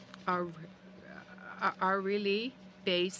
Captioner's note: speaking french